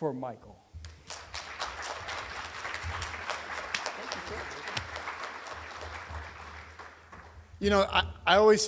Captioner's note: applause